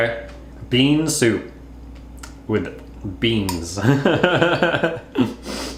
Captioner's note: laughs